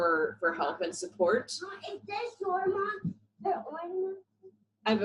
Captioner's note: background noise and talking